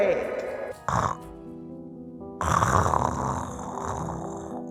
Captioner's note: snoring